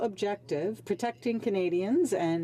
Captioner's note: speaking French